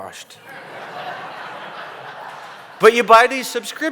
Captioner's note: laughter